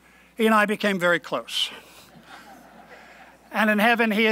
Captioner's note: laughing